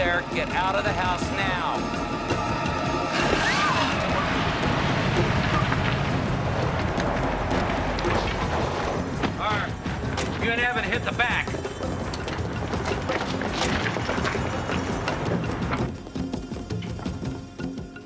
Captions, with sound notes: The prowler is there. Get out of the house now. - (screams) - Harv, you and Evan hit the back. ■